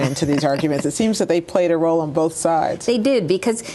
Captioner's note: laughter